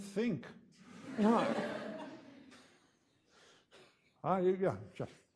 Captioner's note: audience laughing